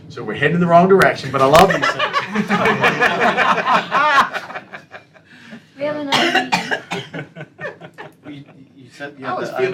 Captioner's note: laughter